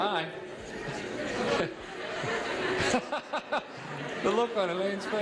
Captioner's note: laughing